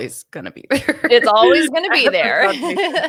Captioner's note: laughs